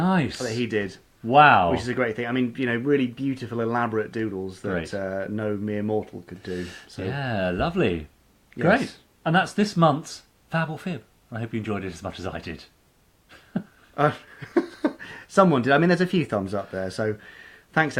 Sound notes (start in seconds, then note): 14.0 laughing